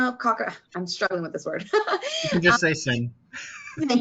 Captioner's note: chuckling